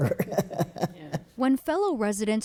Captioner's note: laughter